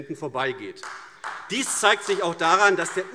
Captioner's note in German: Beifall AfD